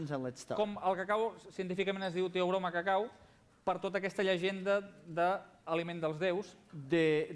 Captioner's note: non-english speech